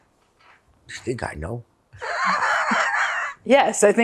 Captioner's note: laughing